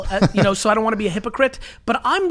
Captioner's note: laughs